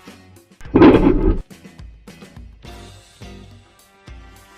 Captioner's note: grinding